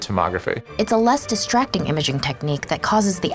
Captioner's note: voiceover